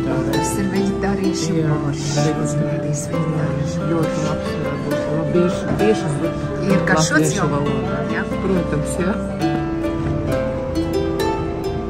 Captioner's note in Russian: Разговор по латышски